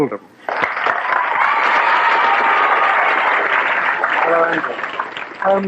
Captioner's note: cheers and applause